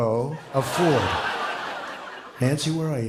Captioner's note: laughter